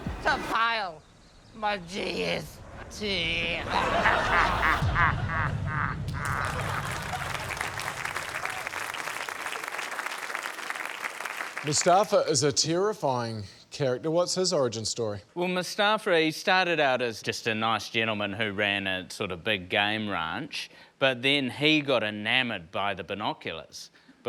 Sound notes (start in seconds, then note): 3.6 evil laughter; 6.1 applause